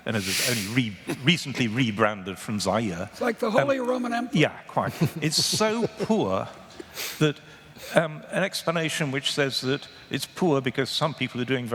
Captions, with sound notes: ISN'T A REPUBLIC, AND RECENTLY REBRANDED FROM ZAIRE. >> LIKE THE HOLY ROMAN EMPIRE. [ LAUGHTER ] >> IT IS SO PURE, AN EXPLANATION WHICH SAYS -- IT IS SO POOR,